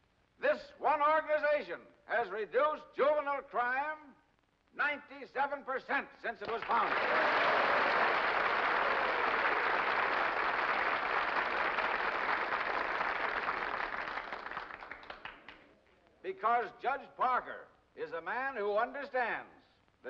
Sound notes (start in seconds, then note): 7.1 crowd cheers and applauds